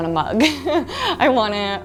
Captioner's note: laughs